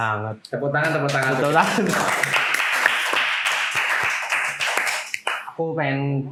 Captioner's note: claps